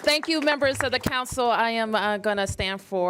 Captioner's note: applause